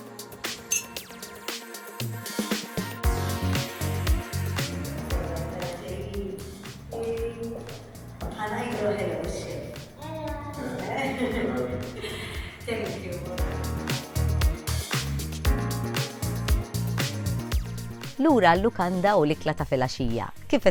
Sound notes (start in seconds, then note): 0.7 glasses clink; 10.6 laughs; 14.8 upbeat music continues